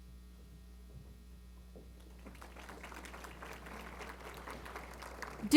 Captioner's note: applause